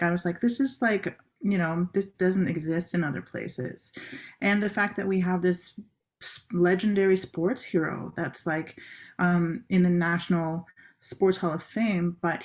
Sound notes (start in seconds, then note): none